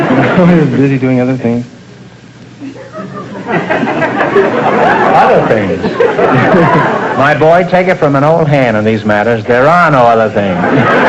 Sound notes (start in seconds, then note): 2.6 audience laughter